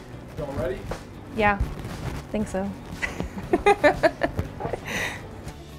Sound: laughs

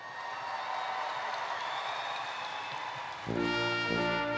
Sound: applause

